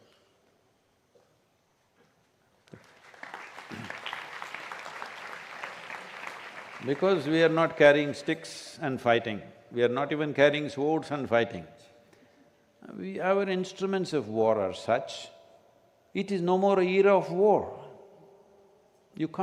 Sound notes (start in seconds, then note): 2.7 applause